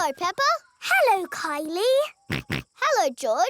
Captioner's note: snorts